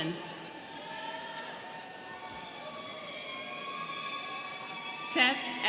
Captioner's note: students cheering